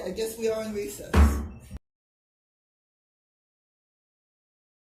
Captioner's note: gavel bangs